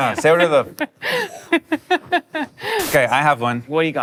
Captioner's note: laughter